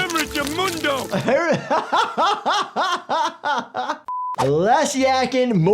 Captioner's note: laughing